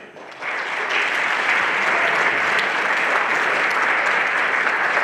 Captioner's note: everyone applauding